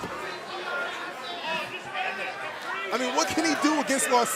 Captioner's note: crowd chatter